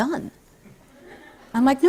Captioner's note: light laughter